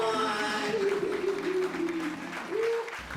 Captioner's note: applause